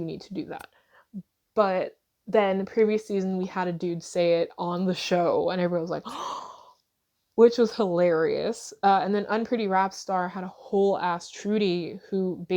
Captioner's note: gasp